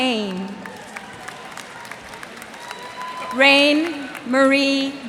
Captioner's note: cheers and applause